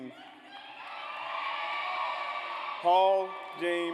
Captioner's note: audience cheers